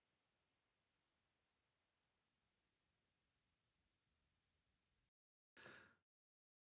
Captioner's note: silence